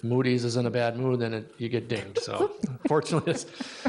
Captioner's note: chuckles